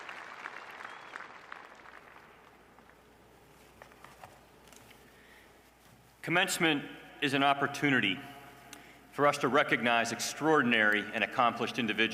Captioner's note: applause